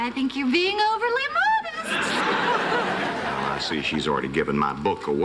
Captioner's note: laughter